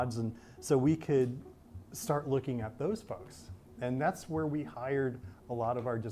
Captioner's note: none